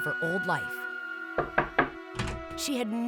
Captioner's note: knocking